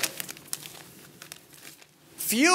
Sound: paper crinkling

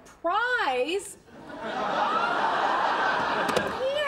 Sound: audience laughter

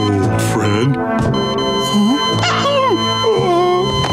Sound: beeping stops; groaning

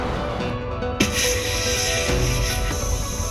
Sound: air hissing

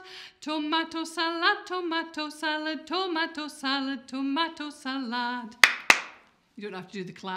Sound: clap, clap

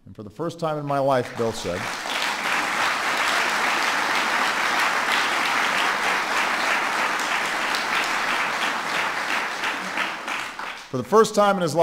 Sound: applause

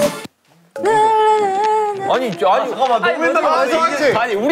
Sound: frustrated

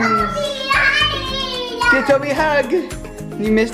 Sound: children excited

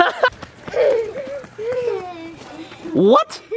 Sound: children giggling

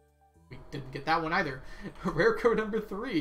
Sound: laughs

